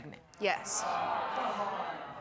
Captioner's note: audience exclaiming